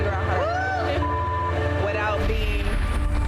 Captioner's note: beep